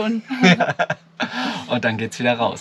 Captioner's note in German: beide lachen